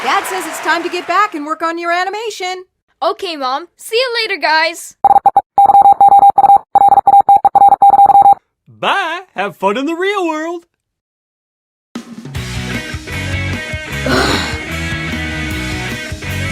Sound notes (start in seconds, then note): 5.0 robot beeping; 12.0 upbeat rock music; 14.0 sighs